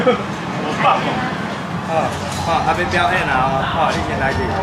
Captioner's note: crowd cheering